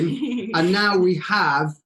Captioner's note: chuckles